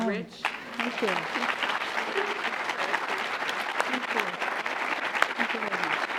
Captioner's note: applause